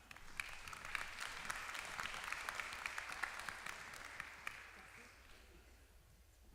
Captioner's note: applause